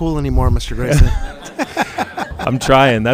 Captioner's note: all laughing